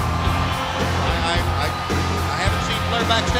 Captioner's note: crowd cheering